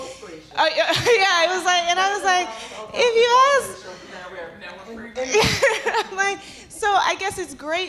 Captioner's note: laughs